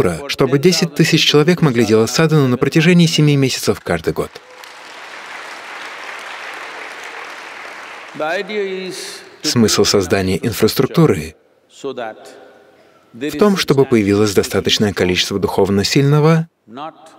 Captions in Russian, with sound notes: чтобы десять тысяч человек могли делать садхану на протяжение семи месяцев каждый год. (апплодисменты) Смысл создания инфраструктуры в том, чтобы появилось достаточное количество духовно сильного,